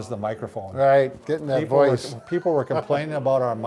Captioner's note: laughing